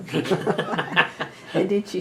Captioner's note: laughs